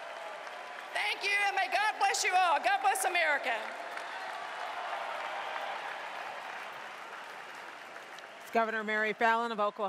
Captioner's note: cheering and applause